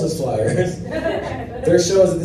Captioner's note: laughter